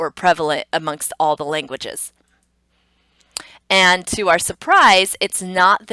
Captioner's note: computer mouse clicks; tongue clicks